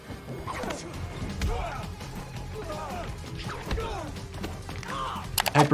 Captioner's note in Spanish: combatientes peleando y gritando